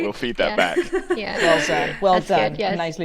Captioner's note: panelists laughing